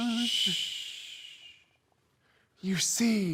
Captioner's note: hushing